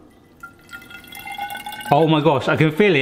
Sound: water gurgling

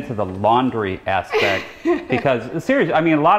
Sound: laughs

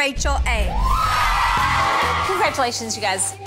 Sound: girls cheering

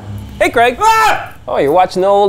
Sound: screams

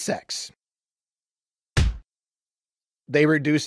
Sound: punch sound

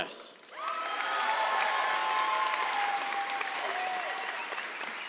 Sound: cheers, applause

